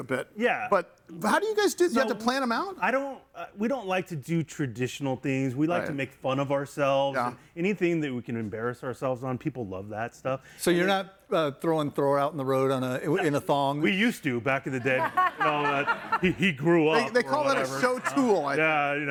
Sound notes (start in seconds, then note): 17.0 laughs